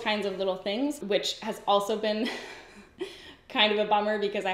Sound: giggles

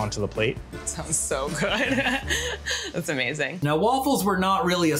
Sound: laughs

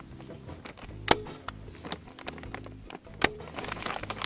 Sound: stapling sound

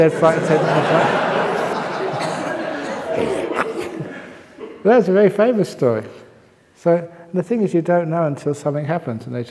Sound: laughter

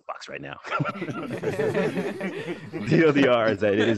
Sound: group laughing

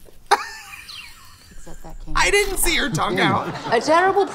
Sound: laughs

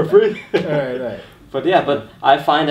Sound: laughing

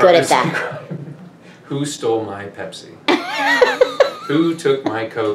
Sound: laughs

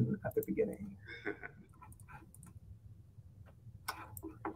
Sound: laughs

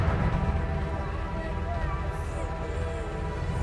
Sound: sobbing

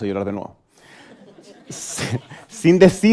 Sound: laughter

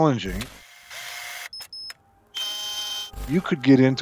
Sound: drill whizzing; beeping

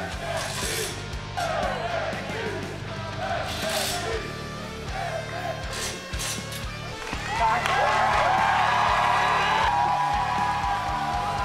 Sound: crowd noise

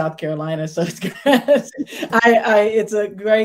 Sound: laughs

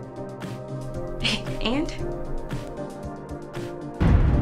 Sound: scoffs; boom

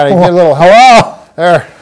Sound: yelps in pain

